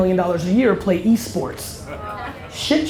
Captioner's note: audience laughter